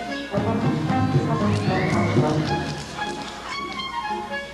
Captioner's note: applause